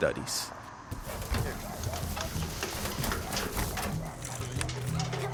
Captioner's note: distant dog barking